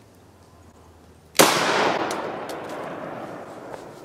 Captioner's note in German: ein Schuss wurde abgefeuert